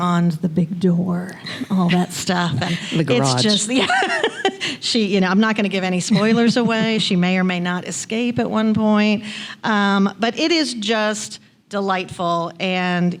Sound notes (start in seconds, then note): 3.4 laughs